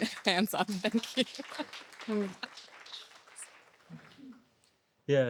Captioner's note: audience applauding